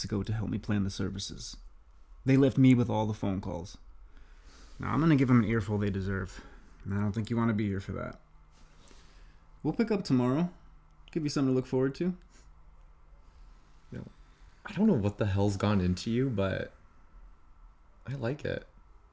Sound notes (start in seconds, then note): none